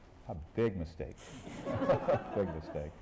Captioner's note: laughter